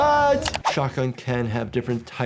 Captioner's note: clicking sound